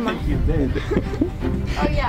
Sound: laughs

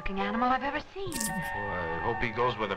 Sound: scoffs

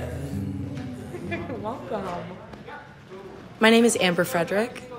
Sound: chuckles

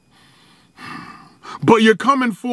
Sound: sighs

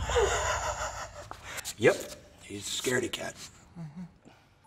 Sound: laughs

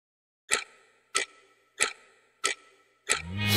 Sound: watch/clock ticking

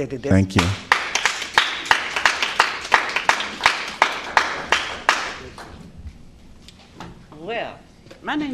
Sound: applause

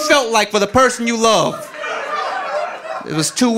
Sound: audience laughing

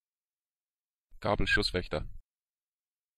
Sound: fast Pronunciation

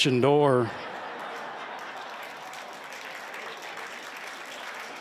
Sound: laughter, applause

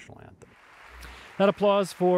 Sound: audience applauds

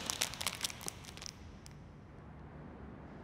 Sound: plastic crinkling; crinkling stops

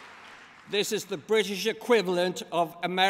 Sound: applause

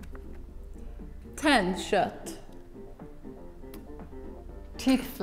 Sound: speaking in a foreign language

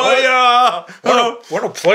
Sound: laughing

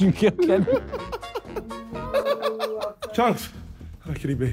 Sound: laughing

